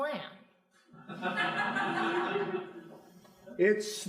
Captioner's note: crowd laughing